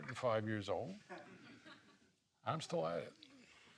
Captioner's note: laughing